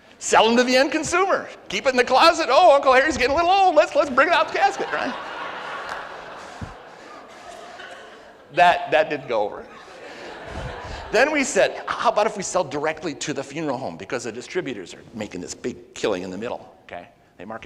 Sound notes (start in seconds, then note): 4.0 audience roars; 10.0 audience laughs